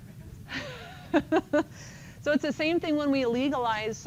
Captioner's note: laughs